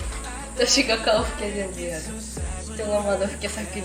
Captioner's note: wiping